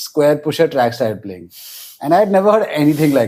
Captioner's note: laughs